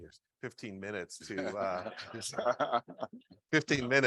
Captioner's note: all laughing